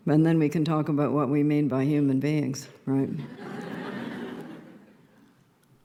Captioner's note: laughter